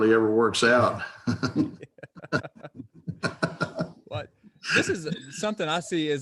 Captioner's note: chuckling